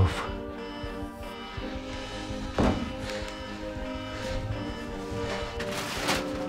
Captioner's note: alarm blares; tense instrumental music